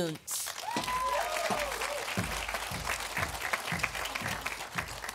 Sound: audience applauding

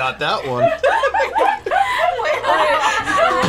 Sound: everybody laughs

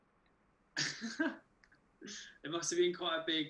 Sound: chuckles

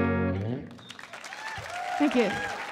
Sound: audience applauding and cheering

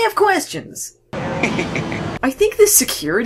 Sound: Mitch laughs

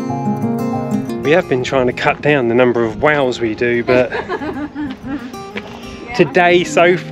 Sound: laughte r

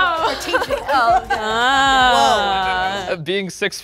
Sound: laughing

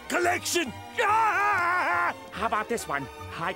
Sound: laughing

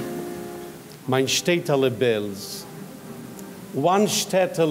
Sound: speaking in foreign language

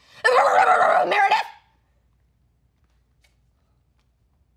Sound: barks

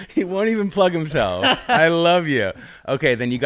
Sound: laughs

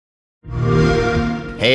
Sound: Xbox Sound

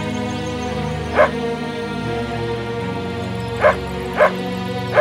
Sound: dog barks

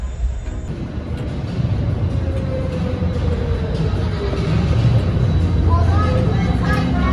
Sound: roller coaster carts rumbling on the track

